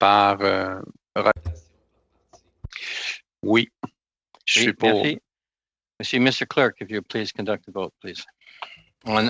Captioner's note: speaking French